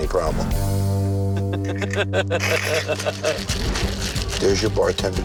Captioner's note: laughter